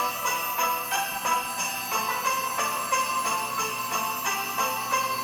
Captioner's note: bandsaw buzzing